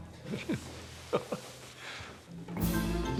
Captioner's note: laughs